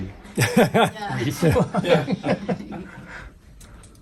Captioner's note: all laughing